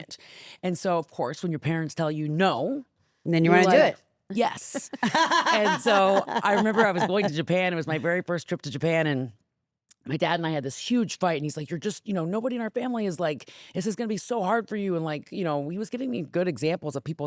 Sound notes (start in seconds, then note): 4.7 laughs